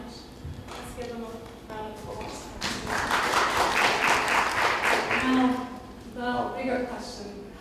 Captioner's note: applause